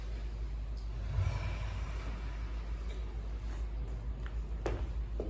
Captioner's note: inhale; exhale